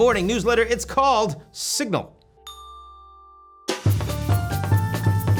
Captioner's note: bell rings; upbeat instrumental music